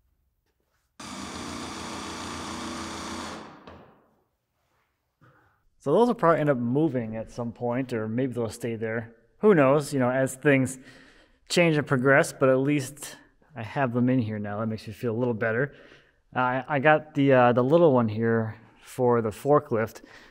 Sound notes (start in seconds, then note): 1.0 drill rasping